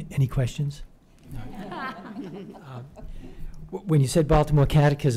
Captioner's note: laughter